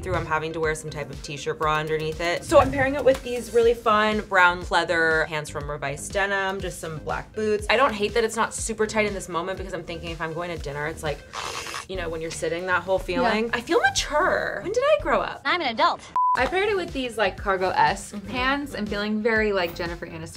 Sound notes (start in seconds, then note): 16.1 beep